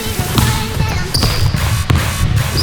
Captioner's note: sneakers screech; ball bounces; upbeat techno music